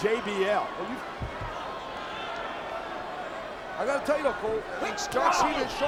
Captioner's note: applause